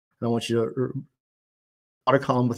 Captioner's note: audio cuts out